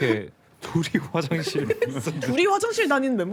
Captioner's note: sobs